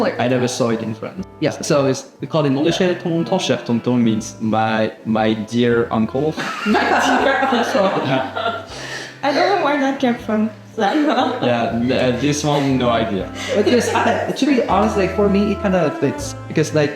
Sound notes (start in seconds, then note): 6.4 laughs